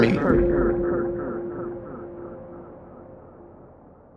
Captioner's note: curse echoes